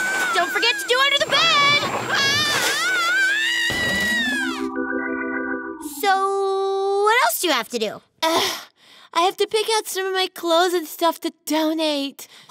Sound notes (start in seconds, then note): 2.3 screaming